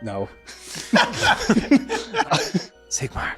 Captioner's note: laughing